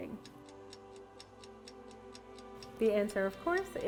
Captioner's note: clock ticking